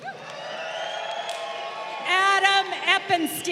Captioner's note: crowd cheering